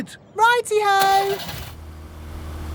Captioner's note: car engine starts